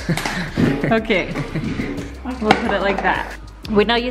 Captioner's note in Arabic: يضحك